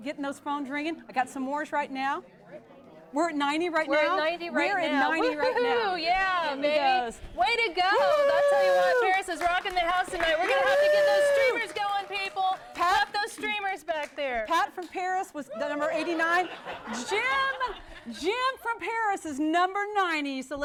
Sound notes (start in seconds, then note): 7.8 cheering